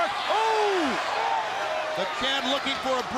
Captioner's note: crowd chatter